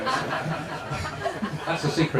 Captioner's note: laughter